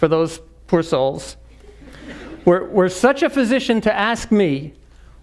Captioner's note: laugh